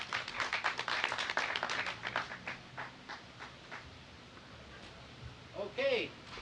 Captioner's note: applause